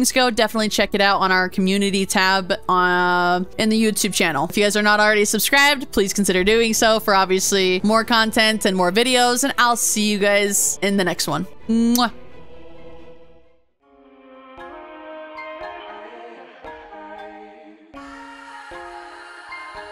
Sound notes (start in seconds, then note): 16.4 kiss